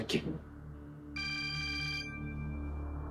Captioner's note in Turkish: Telefon çalıyor